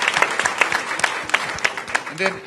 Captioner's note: applause